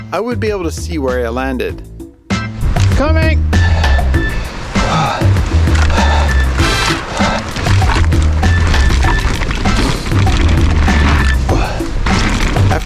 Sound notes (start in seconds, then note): 3.5 breathing heavily; 5.9 bicycle wheels spinning